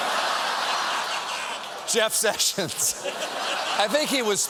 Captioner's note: laughter